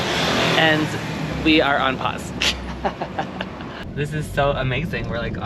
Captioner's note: giggles like a school girl